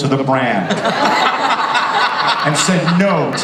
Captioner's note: audience and panelists laugh